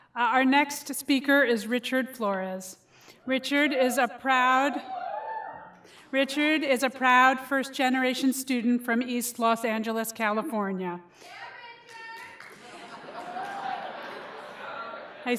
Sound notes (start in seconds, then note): 12.5 laughter